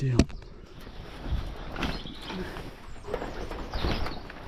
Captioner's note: fence rattling